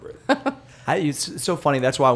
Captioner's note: laughter